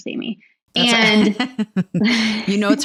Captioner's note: laughing